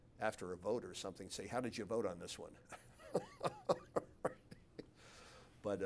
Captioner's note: laughs